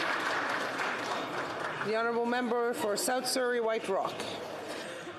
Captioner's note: some Applause